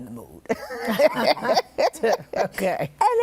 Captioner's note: laughter